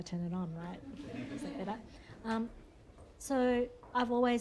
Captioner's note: laughter